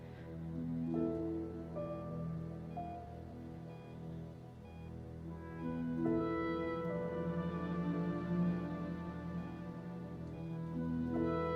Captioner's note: heart monitor beeping; heart monitor beeping